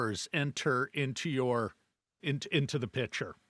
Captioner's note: none